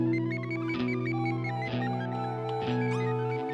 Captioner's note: computer beeping; computer chimes